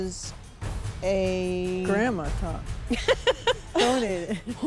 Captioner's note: laughing